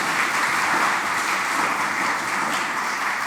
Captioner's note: applause